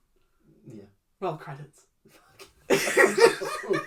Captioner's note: whispered; discomfort noises; under breath; laughs